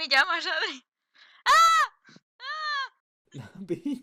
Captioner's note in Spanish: gritos